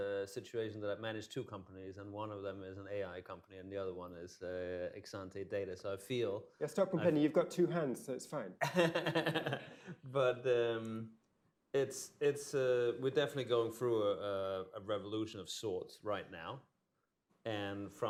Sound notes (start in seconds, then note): 8.6 laughter